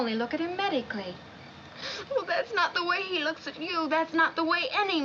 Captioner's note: sobbing